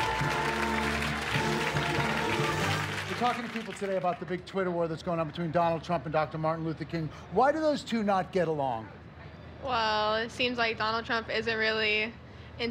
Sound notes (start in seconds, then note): 4.5 applause